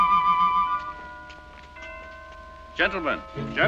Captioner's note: bells ringing